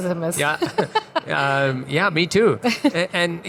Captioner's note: laughs; chuckles